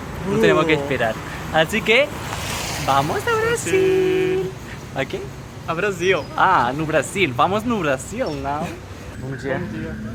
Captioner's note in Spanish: con acento portugués